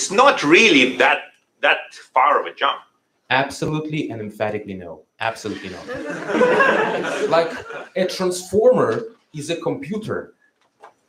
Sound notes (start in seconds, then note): 5.5 laughter